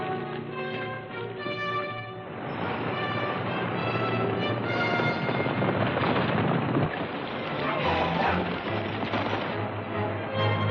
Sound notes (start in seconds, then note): 2.6 horses galloping